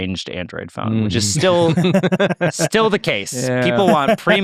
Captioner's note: laugh